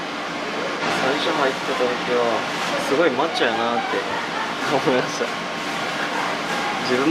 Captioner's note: laughs